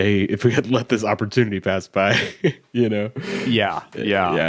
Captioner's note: laughs